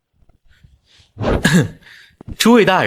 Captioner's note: cough